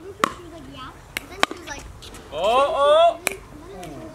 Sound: ball knocks against paddles

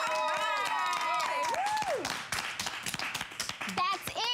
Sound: cheering and applause

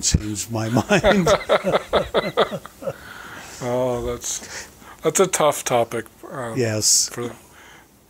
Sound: chuckling

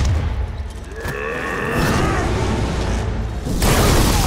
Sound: grunting

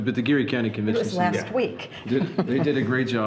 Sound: laughing

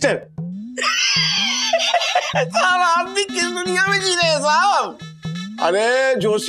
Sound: laughs

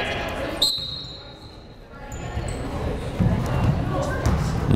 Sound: whistle blowing

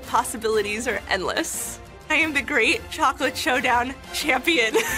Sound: laughs

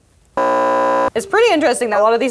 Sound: beep

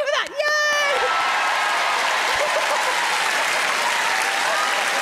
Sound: crowd cheer

